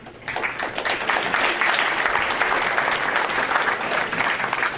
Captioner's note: audience applauding